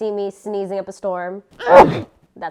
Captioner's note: aggressive sneeze